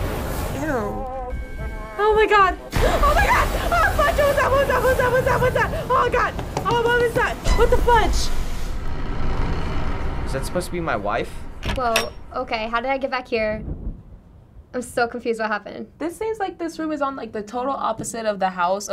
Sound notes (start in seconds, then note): 2.5 gasping; 3.5 babbling incoherently